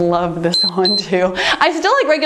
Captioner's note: timer beeps